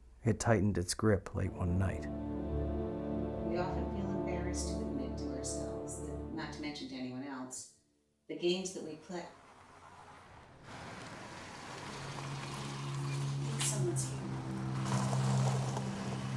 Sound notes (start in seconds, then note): 1.4 ominous music; 9.3 car commotion; 12.1 ominous music